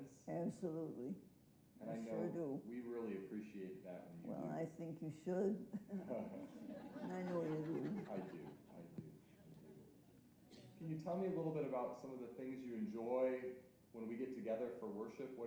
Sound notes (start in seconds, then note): 5.7 chuckling; 6.0 audience laughing